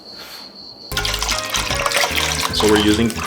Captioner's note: crickets chirping; juice pouring